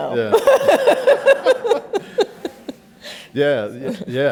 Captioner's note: laughs